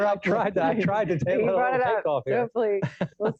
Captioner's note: laughs